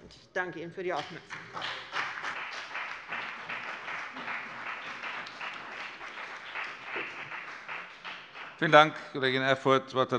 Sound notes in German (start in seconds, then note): 1.0 Beifall bei dem BÜNDNIS 90/DIE GRÜNEN und der CDU